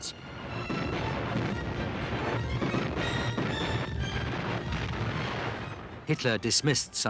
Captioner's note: dramatic symphonic music; explosions booming